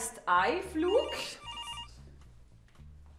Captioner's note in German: Felix’ Handy klingelt